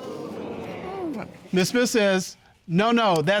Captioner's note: audience groaning